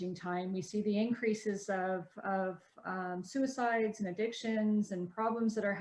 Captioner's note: stammering